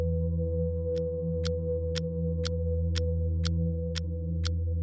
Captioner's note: clock ticking